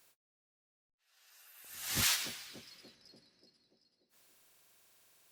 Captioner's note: sound effect